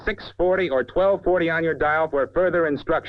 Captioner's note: none